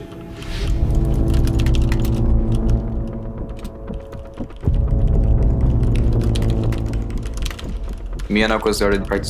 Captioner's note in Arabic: نقر على لوحة المفاتيح